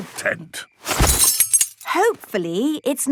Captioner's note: clang-ruffle-thump